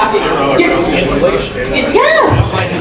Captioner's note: audience murmuring